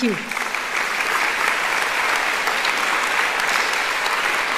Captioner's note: applauding